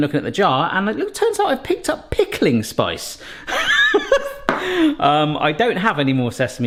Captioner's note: laughs